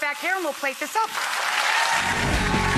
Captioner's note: audience applauds; upbeat music